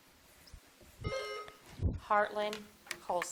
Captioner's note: buzzer dings